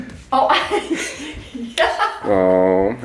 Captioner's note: woman laughs